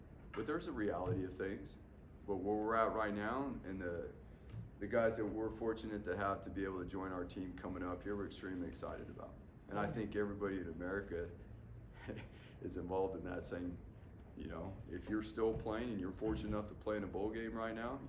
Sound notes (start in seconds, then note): 11.9 laugh